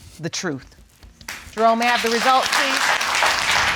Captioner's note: audience applauding